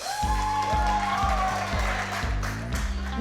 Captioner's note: all cheering